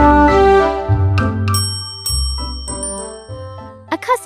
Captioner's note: bell Rings